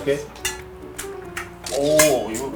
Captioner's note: snap